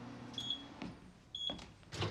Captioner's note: microwave Beeping